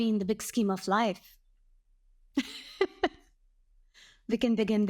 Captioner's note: laughs